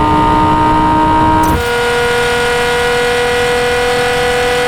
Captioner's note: engine roaring continues